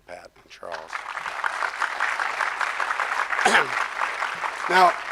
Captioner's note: crowd applause